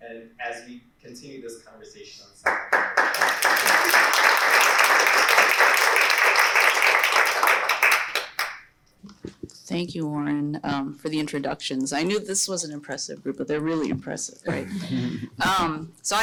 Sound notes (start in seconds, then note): 2.4 applause